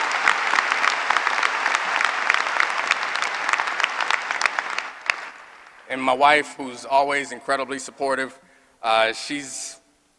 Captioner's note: applause